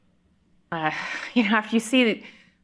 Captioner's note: exhales